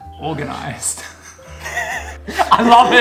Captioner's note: chuckles